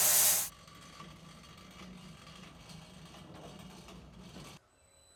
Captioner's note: sawmill grinding back